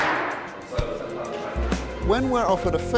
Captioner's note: gavel banging